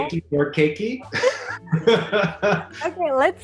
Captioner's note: Eugene laughing